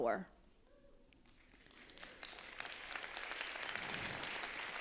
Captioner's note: applause